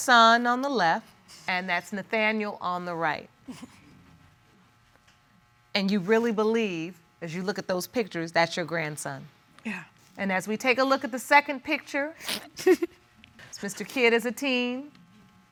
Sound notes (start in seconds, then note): 3.5 chuckles; 12.5 chuckles